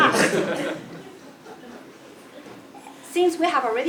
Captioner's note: laugh